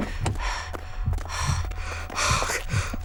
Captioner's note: panting